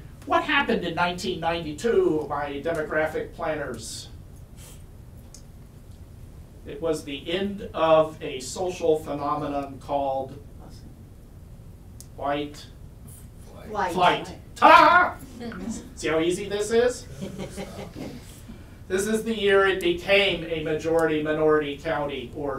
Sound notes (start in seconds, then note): 15.3 laughs